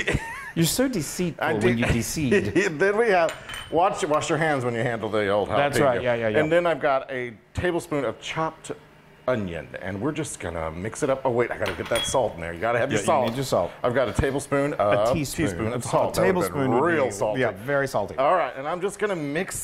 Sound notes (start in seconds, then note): 2.3 laughing